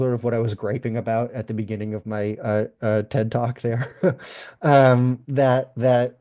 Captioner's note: laughs